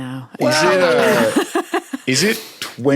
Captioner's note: guests laughing